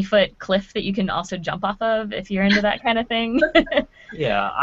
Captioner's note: laughing